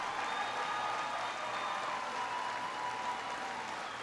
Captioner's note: applause